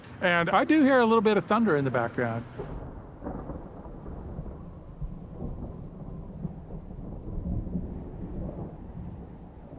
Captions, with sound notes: and I do hear a little bit of thunder in the background. (DISTANT RUMBLE OF THUNDER)